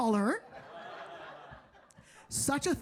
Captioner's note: audience laughing